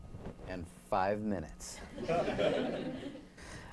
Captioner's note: laughter